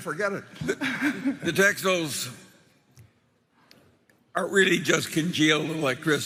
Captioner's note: laughs